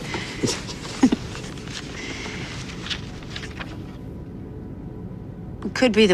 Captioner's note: all laughing